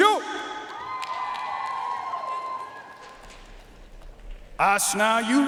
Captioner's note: audience cheering and applauding